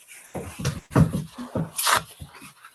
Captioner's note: paper towel rips